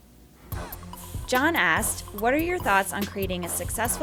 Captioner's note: voiceover